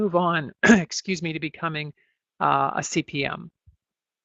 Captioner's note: clears throat